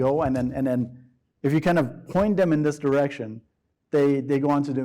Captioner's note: none